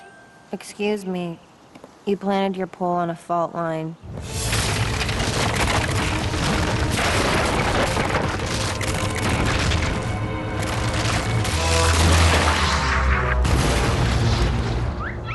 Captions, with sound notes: Excuse me. You planted your pole on a fault line. [crackling] [crash]